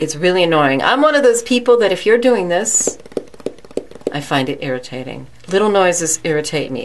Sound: tapping of fingers

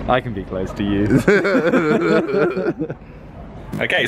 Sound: laughing

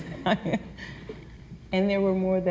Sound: laughs

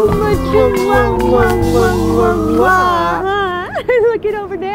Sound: kissing noises

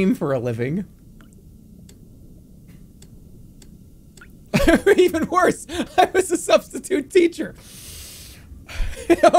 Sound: laughing

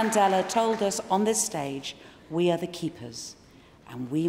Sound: applause

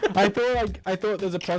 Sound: laughing

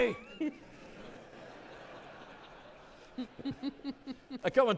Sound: audience laughing

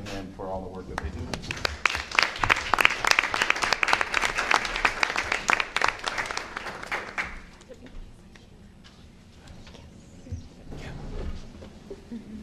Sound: applause

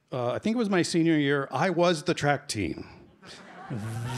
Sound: laughter

